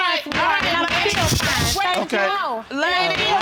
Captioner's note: gavel banging